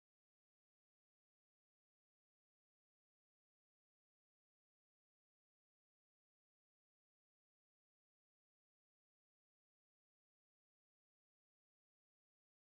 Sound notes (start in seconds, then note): none